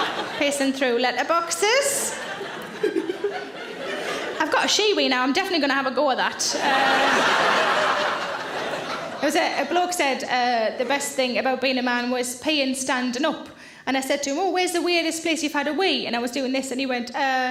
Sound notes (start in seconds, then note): 2.5 Sarah laughs; 6.4 audience laughs